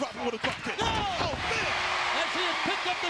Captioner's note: Tony exclaims